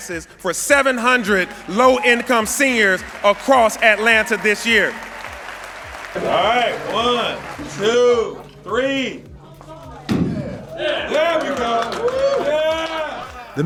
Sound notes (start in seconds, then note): 10.7 cheers